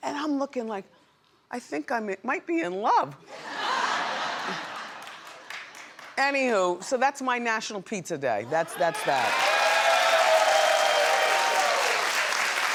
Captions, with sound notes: and I'm looking like, I think I might be in love. (audience laughs) Anywho, so that's my National Pizza Day, that's that. (audience cheers)